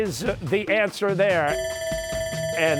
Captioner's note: bell ringing